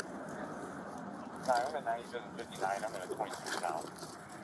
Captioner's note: radio chatter